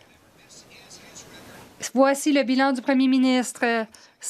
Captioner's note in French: voix de l'interprète